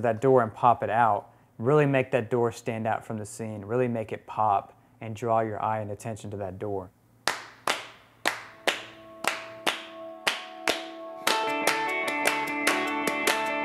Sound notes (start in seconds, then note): 6.1 clapping; 11.2 rock music